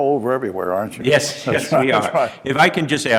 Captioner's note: laughs